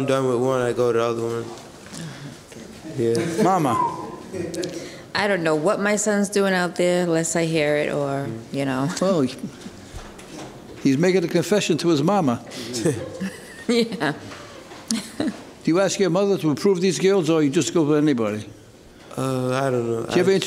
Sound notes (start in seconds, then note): 3.7 whistling; 12.6 chuckling